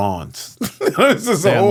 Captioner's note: laughing